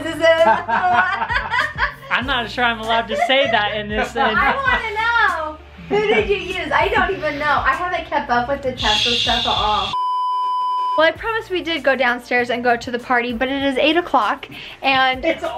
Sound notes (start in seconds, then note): 0.2 laughs; 8.8 tv static beep